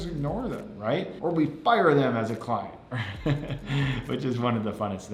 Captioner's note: laughs